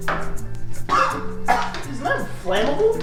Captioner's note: coughs